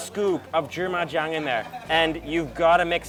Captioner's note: speaks in a foreign language